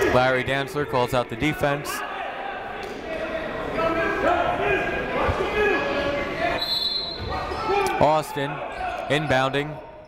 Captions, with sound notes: Larry Dantzler calls out the defense. (shouting) (whistle blowing) Austin inbounding.